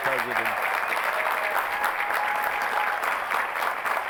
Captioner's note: applause